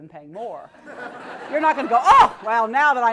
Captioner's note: laugh